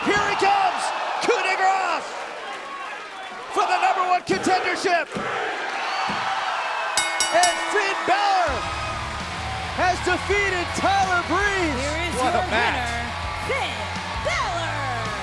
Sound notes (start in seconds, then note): 5.1 crowd cheering; 7.0 bell ringing